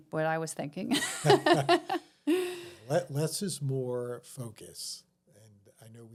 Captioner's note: laughing